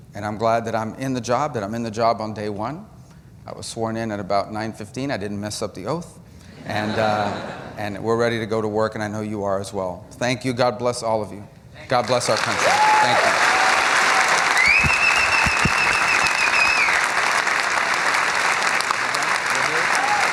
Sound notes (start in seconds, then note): 6.6 laughter; 17.3 cheering and applause